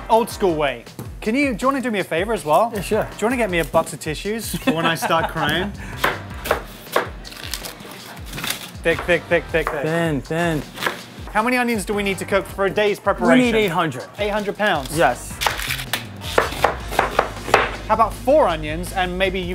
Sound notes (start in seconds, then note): 4.4 laughs; 7.2 onion rustles; 15.4 cutting onions sfx